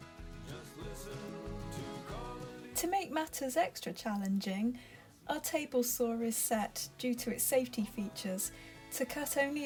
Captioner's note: voiceover